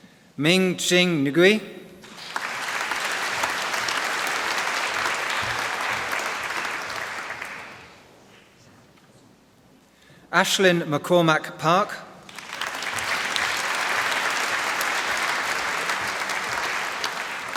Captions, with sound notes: Ming Chzing Ngui. (Applause) Aisling McCormack Park. (Applause)